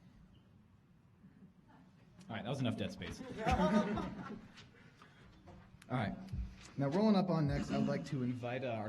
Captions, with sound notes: Alright, that was enough dead space. [audience laughing] Alright, now rolling up on next, I'd like to invite